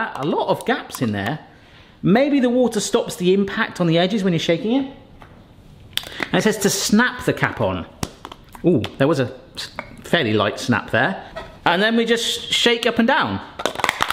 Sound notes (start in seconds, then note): 8.0 cap snaps